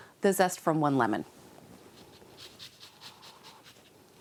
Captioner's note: scrape, scrape, scrape